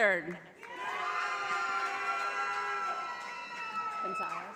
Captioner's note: audience applauding